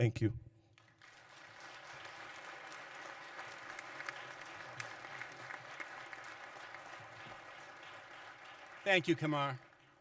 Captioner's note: applause